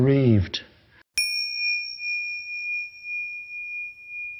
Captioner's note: bell rings